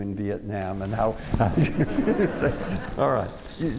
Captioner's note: laughter